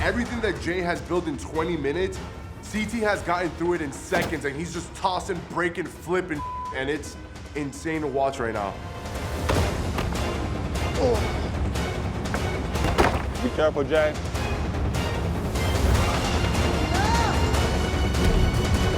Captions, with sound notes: - Everything that Jay has built in 20 minutes, CT has gotten through it in seconds and he's just tossing, breaking, flipping (beep) and it's insane to watch right now. (dramatic music) - Be careful, Jay. (dramatic music)